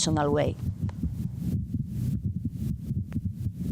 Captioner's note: heart beating